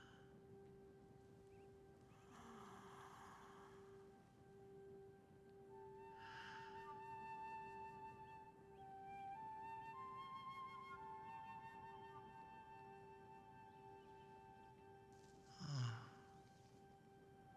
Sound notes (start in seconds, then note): none